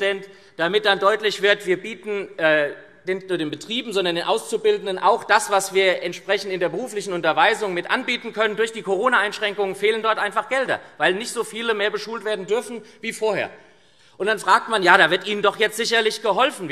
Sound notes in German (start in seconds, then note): none